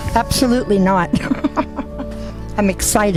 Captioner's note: laughing